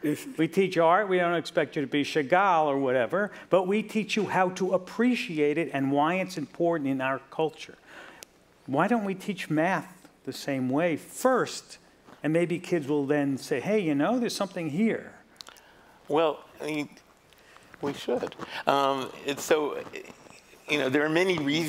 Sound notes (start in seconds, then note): none